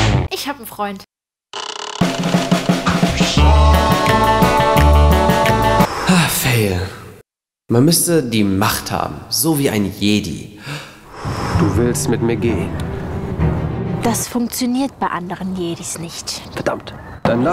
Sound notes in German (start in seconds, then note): 2.0 60er Jahre Musik; 5.9 Seufz